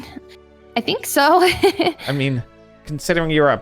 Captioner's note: laughs